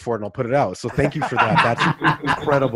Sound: laughs

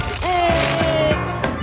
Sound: rustling sound; excited scream

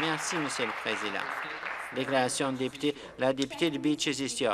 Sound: applause

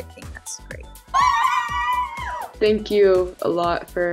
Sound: girls cheering loudly

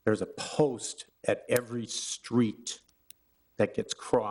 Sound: none

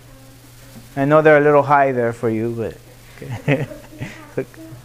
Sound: laughs

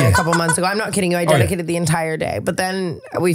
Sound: laughing

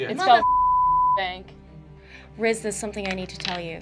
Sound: beeping

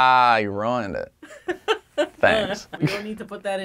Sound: laughing

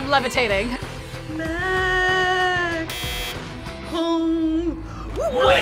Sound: buzzer

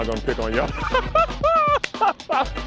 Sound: laughter

